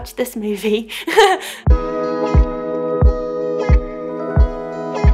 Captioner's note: laughs